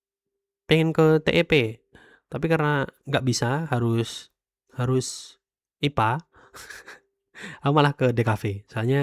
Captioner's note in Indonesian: tertawa